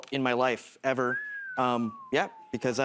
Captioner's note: whistles